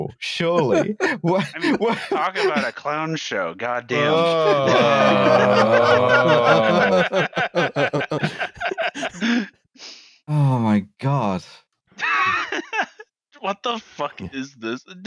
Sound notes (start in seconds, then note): 3.7 laughter; 12.0 laughs